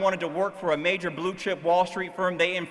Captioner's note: none